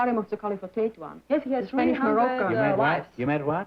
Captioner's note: chatter